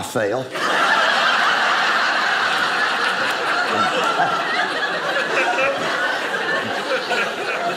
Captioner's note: audience laughing